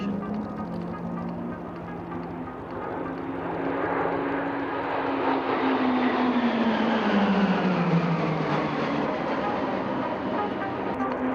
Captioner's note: PC21 aircraft sounds